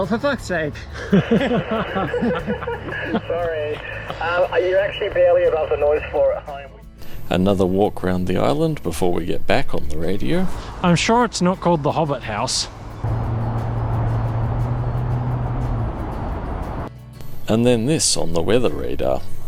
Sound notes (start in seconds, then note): 0.8 over the radio; 0.8 laughs